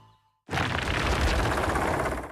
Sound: rocks Clattering

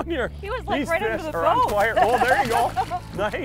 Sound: laughing

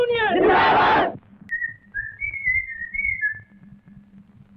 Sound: whistling

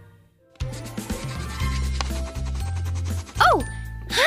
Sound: crayon scribbling

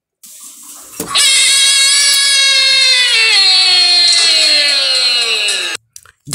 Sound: screaming

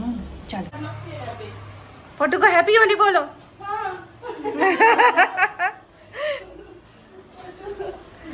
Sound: loud laughter

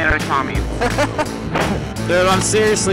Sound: laughter

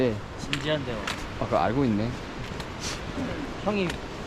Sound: laughs

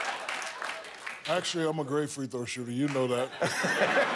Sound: laughter

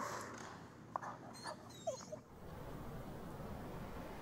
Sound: dog whines

